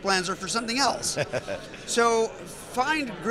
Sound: laughs

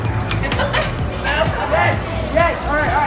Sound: laughing

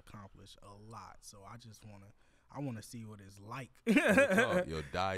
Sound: laughs

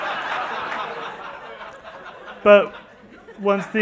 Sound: laughter

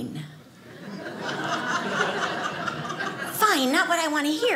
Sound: audience laughing

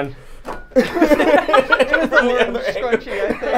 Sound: all laughing

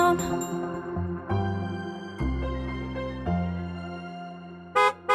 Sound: light music; horn beeps

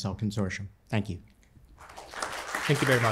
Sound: applause

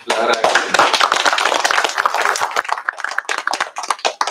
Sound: applause

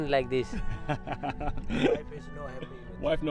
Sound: laughing

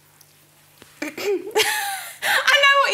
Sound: clears throat; laughs

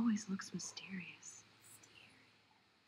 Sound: whispers

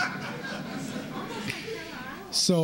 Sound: laughter

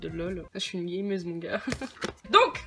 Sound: chuckles

